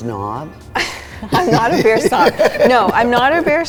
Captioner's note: laughs